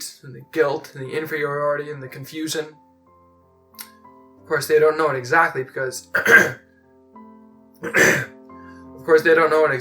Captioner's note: cough, clears throat